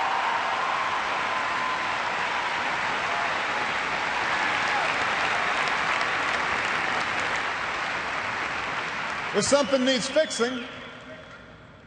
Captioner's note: cheers and applause